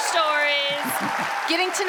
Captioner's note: audience applauds